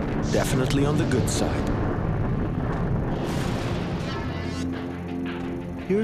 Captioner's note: explosion